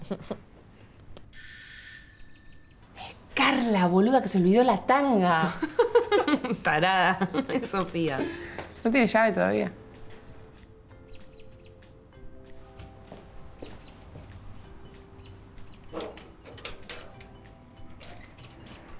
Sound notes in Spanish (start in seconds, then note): 1.3 suena el timbre; 5.4 risas